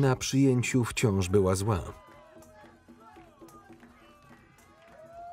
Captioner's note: people cheering